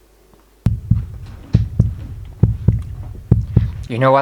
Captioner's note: dramatic Heartbeat